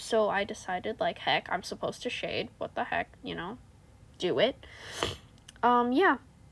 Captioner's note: snifffff